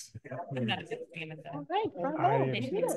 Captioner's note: faintly speaking